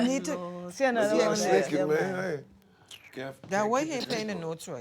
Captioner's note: overlapping chatter